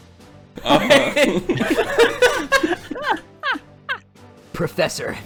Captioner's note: everyone laughs